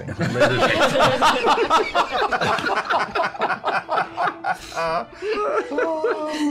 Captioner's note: laughter